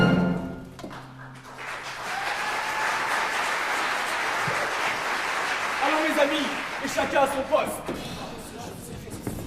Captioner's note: applause